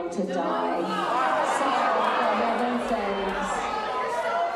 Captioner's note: crowd clamoring